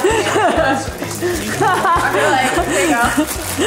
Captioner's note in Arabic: يضحك